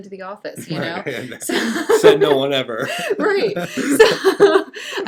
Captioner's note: laughing